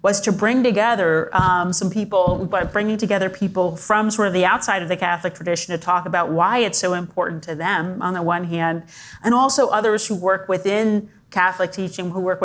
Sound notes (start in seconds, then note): none